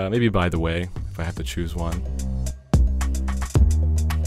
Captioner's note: voiceover